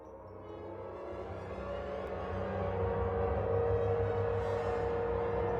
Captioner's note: air-raid siren wails